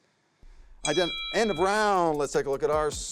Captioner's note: bells rings